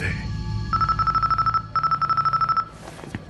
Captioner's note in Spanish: suena un teléfono